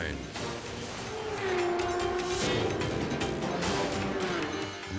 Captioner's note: tense music continues; motorcycle engine roars